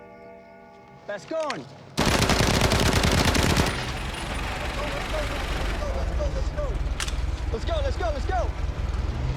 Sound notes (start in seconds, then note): 2.0 machine gun shooting